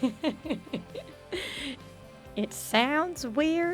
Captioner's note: laughs